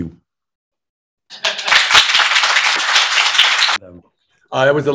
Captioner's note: applause